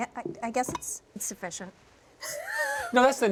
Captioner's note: laughs